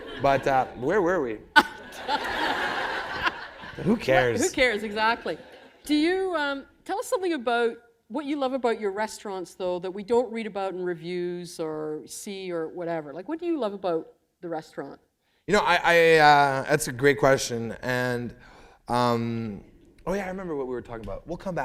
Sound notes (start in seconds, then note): 1.5 laughter